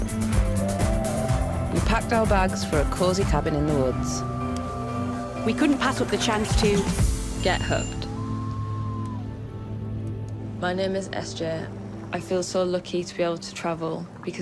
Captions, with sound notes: We packed our bags for a cozy cabin in the woods. We couldn't pass up the chance to Get Hooked. [loon call] [soft music fades in] My name is SJ. I feel so lucky to be able to travel